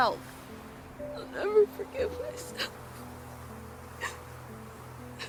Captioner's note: cries